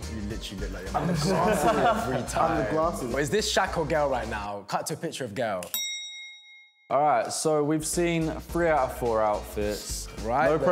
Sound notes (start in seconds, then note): 5.7 bell rings